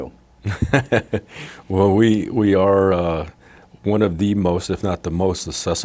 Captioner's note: laughing